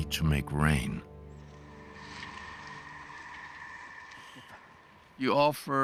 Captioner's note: puffing